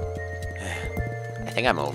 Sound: sigh

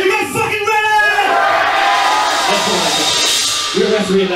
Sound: crowd woos exceptionally louder

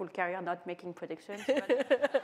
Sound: laughter

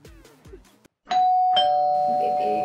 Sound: doorbell

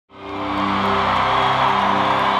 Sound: cheering

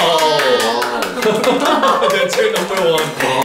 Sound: clap clap clap

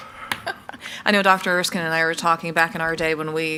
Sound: laughs

